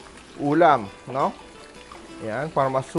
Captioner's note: sizzle